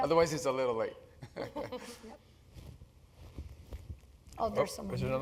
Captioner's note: laugh